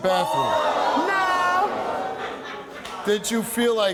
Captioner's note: crowd shouts